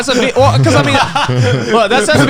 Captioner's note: Garnt and Connor laughing